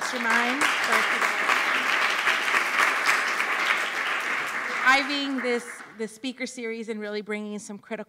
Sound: applause

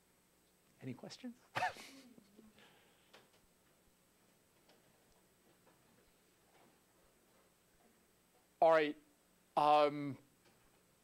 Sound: laugh

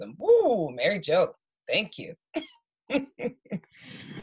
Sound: laughs

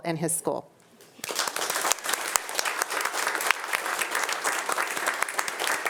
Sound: audience applauding

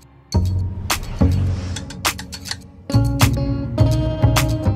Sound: logo whooshing

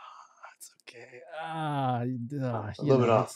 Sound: groans

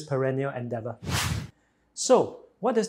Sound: screen swooshes

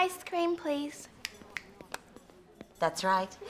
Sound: fingers clicking

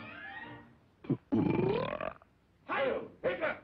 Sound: burp

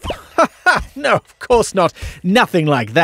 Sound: laughs

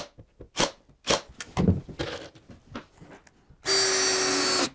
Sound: drill whirring

